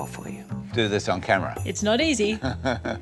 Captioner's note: laughs